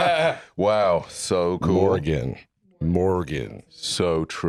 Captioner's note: both laughing; deep voice